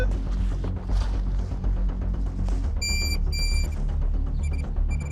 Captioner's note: high-pitched squealing